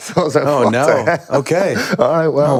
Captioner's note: Finn laughing